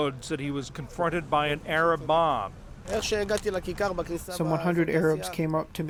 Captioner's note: through translator